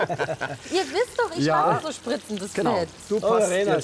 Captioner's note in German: Lachen